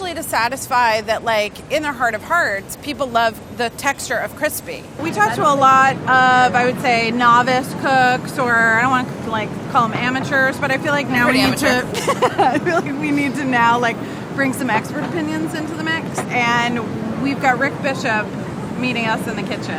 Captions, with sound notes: to satisfy, that like, in their heart of hearts, people love the texture of crispy. - We talked to a lot of, I would say, novice cooks or, I don't wanna call them amateurs, but I feel like now we need to - Pretty amateur. [laughter] - We need to now bring some expert opinions into the mix. And we've got Rick Bishop meeting us in the kitchen.